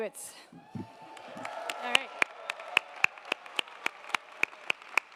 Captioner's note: audience applauding